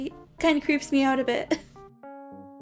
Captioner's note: chuckles